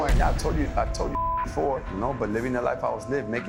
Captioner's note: beep